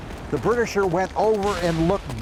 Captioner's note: guns firing